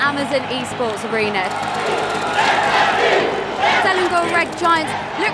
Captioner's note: crowd chanting